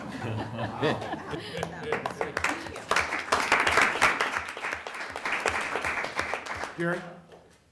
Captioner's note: applause